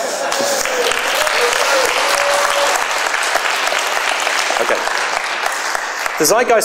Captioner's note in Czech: potlesk